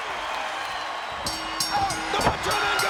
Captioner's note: bell dings